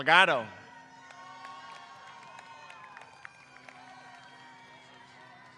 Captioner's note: applause